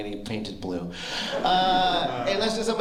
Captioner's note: laughter